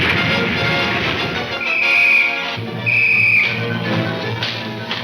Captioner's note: whistle blowing frantically